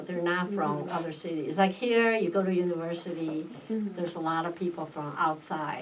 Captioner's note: none